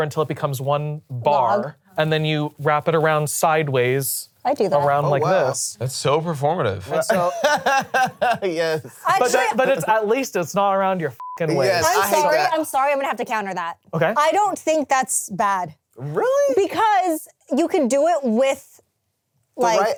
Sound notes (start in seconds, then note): 6.9 laughs; 11.2 beep